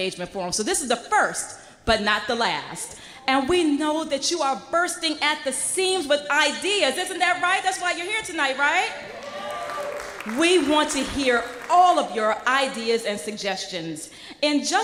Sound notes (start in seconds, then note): 10.8 applause